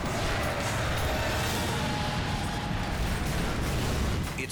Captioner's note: brakes screech